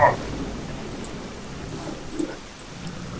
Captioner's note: thunder; roar